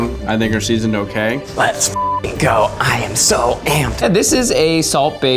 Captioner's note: beeps